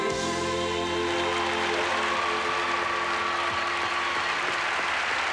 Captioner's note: applause and cheering